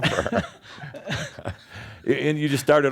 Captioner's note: chuckling